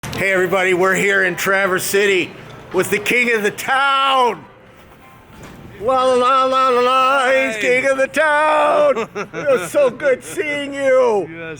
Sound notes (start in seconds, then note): 8.5 laughing